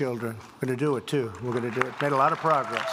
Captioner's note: applause